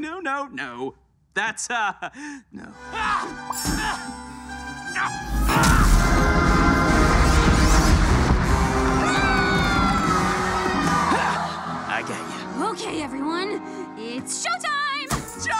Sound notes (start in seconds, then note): 4.5 dramatic instrumental music; 8.9 Charlie screaming